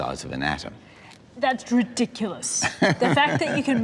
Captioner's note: laughs